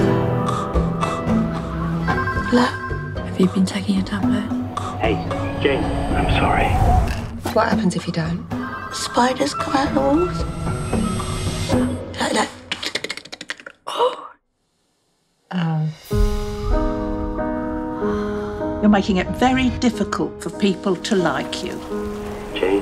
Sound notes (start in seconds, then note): 0.1 upbeat music; 2.1 phone ringing; 8.5 phone ringing; 13.3 tapping noise; 13.8 sighs; 16.1 solemn music